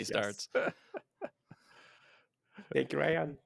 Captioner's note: all laugh